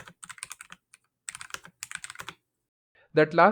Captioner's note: keyboard clacking